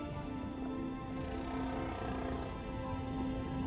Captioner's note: whales groaning